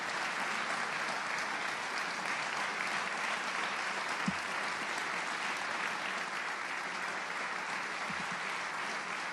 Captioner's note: applause